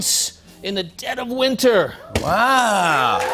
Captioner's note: cheers and applause